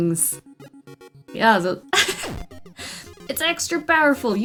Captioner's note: laughs